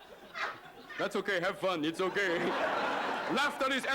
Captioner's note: laughter